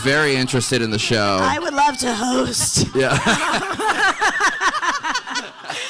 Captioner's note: everyone laughing